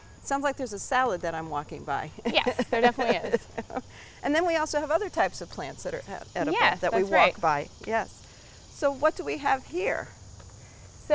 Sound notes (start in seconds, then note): 2.2 laughs